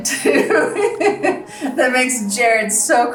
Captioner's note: laughs